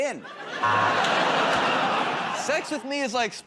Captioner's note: laughter, buzzer